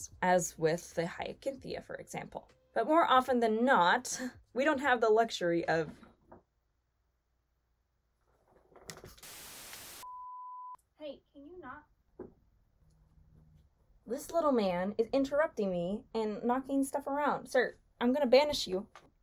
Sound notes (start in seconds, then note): 9.2 static crackling